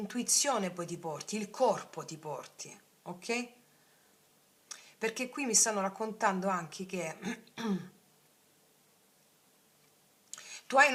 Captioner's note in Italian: schiarire la voce